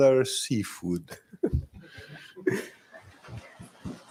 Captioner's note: chuckling